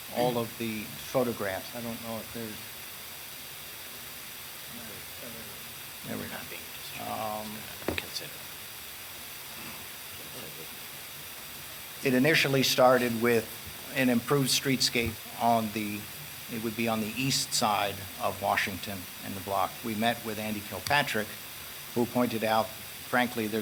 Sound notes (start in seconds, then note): 6.3 speaking off mic